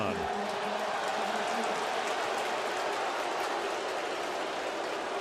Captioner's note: crowd clamoring